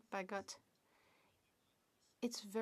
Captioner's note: speaking French